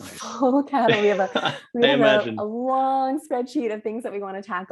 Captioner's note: laughs